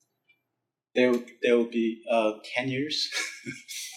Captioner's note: laughs